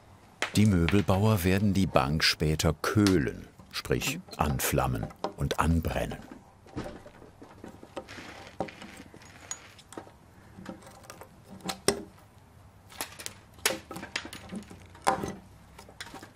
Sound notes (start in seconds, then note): 8.4 quiet rattling